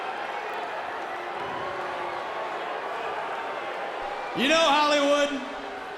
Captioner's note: crowd cheering